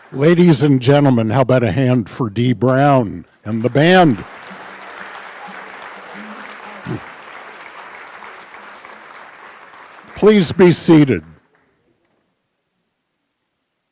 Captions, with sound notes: Ladies and gentlemen how about a hand for Dee Brown and the band. [applause] Please be seated